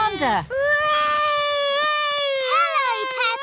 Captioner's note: continues wailing